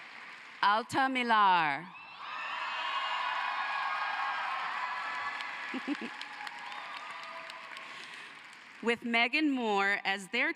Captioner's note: cheering and applause